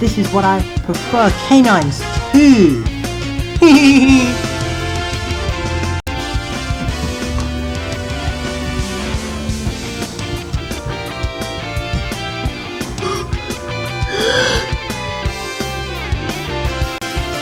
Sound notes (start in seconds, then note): 3.6 giggles; 13.4 gasps